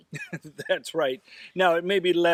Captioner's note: laughs